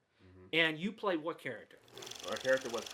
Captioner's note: reel flicking